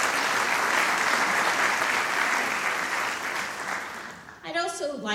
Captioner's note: applause